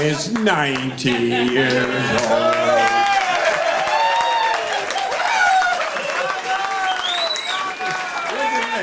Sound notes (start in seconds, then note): 3.1 audience cheering